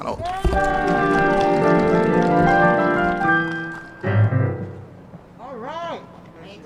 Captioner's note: applause and ♬♬ piano ♬♬